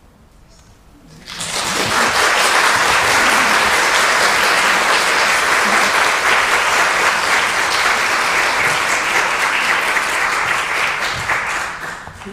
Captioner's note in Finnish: Aplodeja